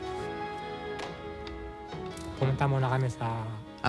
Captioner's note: non-english speech